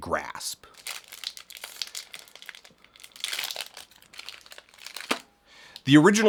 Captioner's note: candy wrapper crinkling